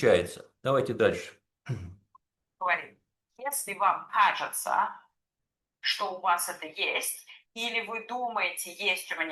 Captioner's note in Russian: откашливается